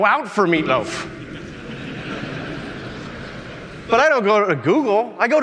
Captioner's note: audience laughing